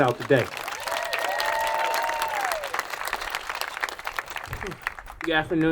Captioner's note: attendees applauding cheering